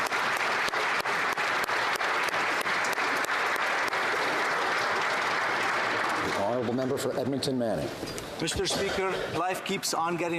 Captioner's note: applause